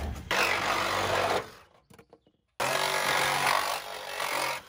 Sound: handsaw buzzing

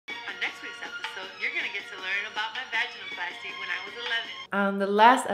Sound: audio from phone

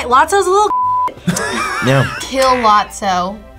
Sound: React laughs

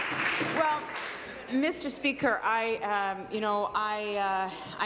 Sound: applause

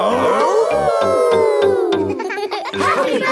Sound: howling; all howling

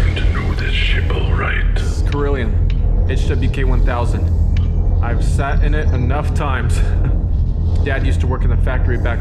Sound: laughs

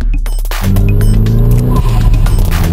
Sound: Dirty SR20 exhaust note

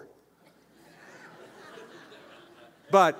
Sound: laughter

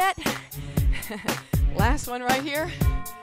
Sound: chuckling

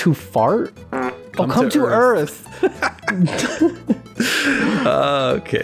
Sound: laughter

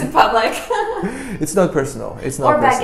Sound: laughs

